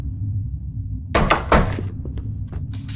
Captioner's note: rear Footsteps